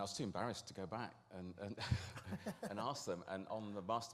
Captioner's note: laughter